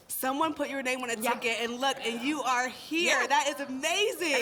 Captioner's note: none